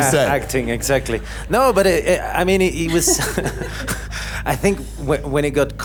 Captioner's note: laughing